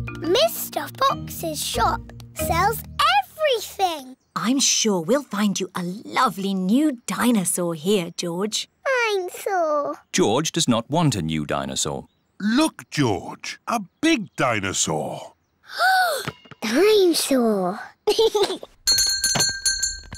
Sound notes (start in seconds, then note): 15.4 gasps; 18.0 giggles; 18.8 bell rings